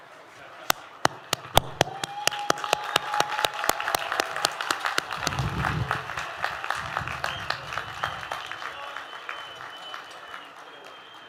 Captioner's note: applause